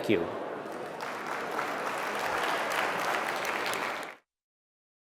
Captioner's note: applause